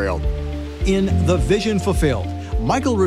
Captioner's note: male Voice